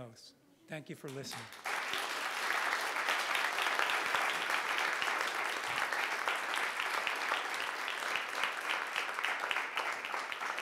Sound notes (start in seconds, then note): 1.9 audience applauding